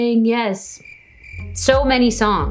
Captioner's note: crickets chirping